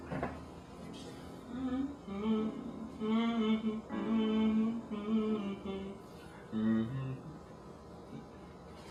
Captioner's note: Alex hums the melody on the sheet music